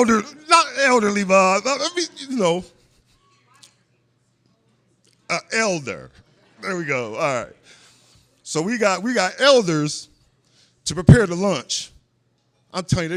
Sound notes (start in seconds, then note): 2.8 laughter; 4.4 offstage voice